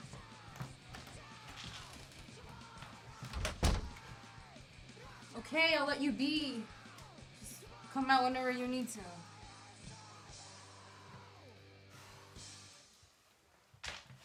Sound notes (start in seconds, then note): 3.2 door slamming; 10.8 heavy metal music